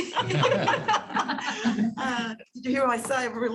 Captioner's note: laughter